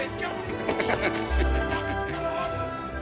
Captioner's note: laughs